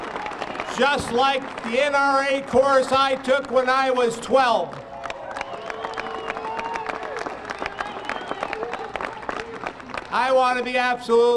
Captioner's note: applause